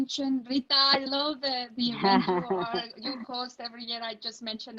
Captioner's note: laughing